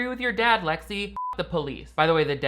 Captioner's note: beeps